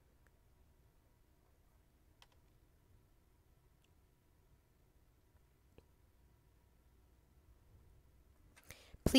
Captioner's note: silence